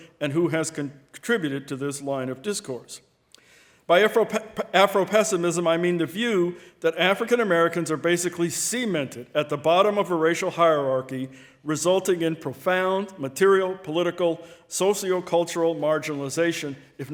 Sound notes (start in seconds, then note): none